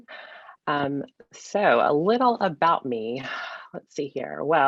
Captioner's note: sighs